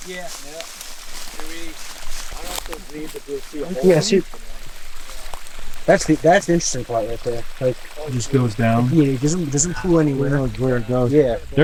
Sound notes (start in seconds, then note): 5.1 water trickling